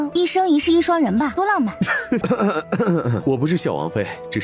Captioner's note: coughs